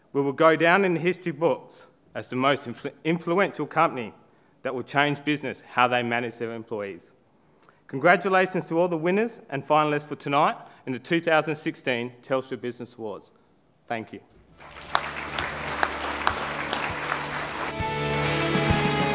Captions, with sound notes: We will go down in the history books as the most influential company that will change business and how they manage their employees. Congratulations to all the winners and finalists for tonight in the 2016 Telstra Business Awards. Thank you. (APPLAUSE)